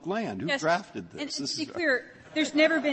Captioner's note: laughter